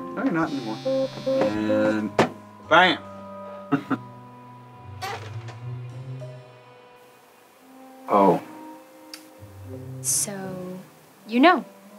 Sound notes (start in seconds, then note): 0.4 cellphone buzzing; 3.6 chuckles